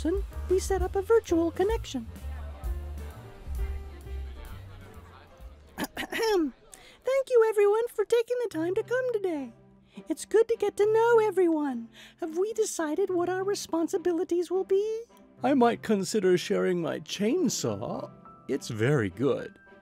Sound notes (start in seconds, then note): 2.1 group of voices chattering; 5.8 woodrat clearing throat